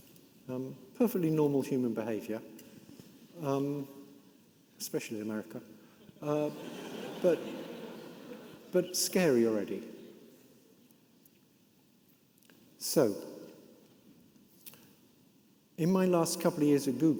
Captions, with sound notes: Perfectly normal human behavior. Especially in America. (audience laughing) But scary already. So in my last couple of years at Google,